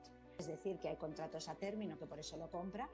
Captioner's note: speaking spanish